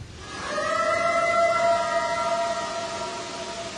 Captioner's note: eerie howl